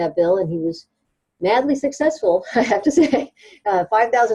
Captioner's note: chuckles